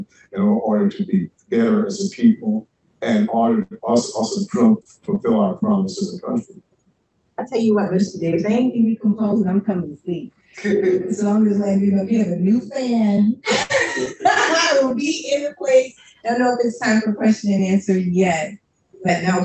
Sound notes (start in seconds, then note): 13.8 laughs